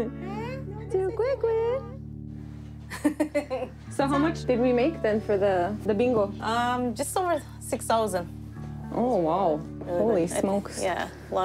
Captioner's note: speaking native language